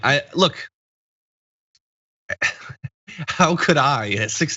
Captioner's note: laugh